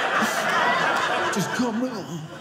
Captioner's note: audience laughing